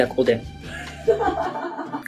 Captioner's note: laughs